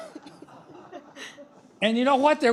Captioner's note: laughter